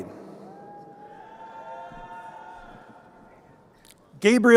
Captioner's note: crowd cheering